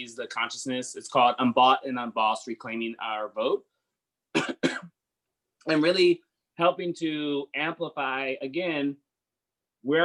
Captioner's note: coughs